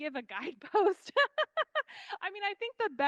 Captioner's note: laughing